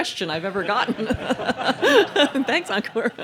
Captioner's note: laughing